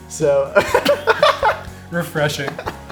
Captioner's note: laughter